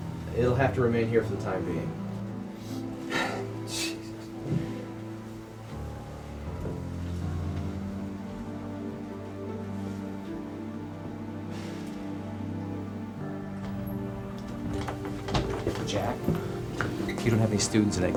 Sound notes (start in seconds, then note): 3.5 scoffs; 5.0 tense music continues